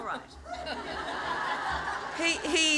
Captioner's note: laughter